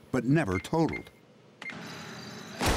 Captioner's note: cash register beeping; gunshot